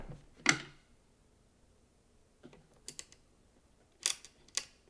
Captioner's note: parts clinking